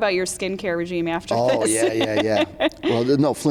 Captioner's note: laughs